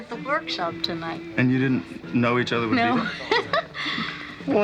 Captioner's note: giggles